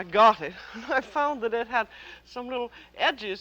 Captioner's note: chuckles